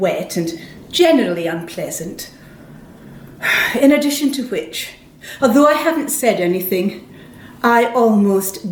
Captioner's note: sighs